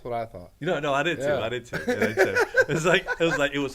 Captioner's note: laughs